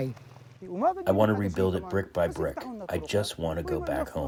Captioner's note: through translator